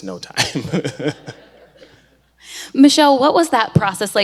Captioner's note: laughs; audience laughs